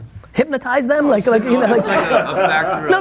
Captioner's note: laughing